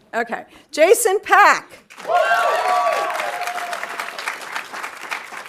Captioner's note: audience applauding